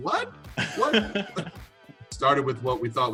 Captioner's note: laughs